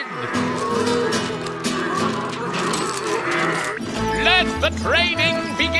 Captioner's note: all mooing